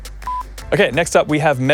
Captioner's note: beep